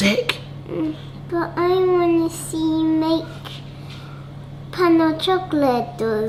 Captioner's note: kisses